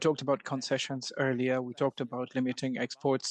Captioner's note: speaking French